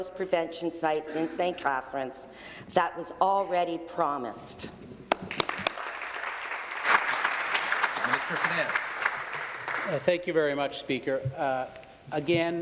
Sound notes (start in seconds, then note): 8.2 applause